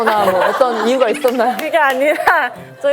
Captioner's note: hahaha